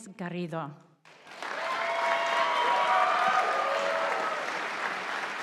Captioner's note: audience applauding